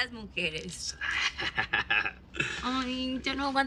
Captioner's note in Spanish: Risas